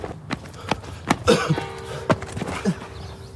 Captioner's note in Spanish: Campanas